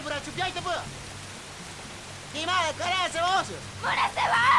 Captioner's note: shouting in native language